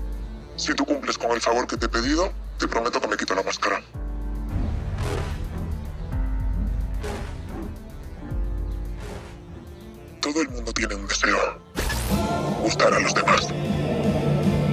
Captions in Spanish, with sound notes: Si cumples con el favor que te he pedido, prometo que me quito la máscara. (VOZ DISTORSIONADA) "Todo el mundo tiene un deseo: gustar a los demás.